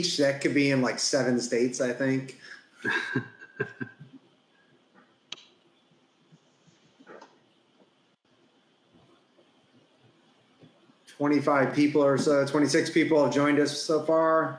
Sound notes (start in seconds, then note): 2.8 laughs